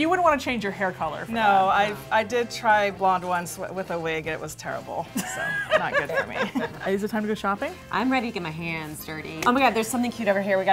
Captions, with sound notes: - You wouldn't want to change your hair color? - No, I did try blonde once with a wig. It was terrible. (laughter) Not good for me. - Is it time to go shopping? - I'm ready to get my hands dirty. Oh my god, there's something cute over here.